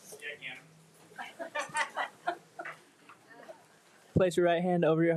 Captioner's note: all laughing